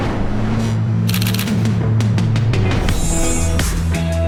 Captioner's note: camera shutter clicks; mellow guitar music